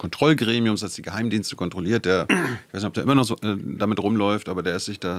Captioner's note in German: räuspern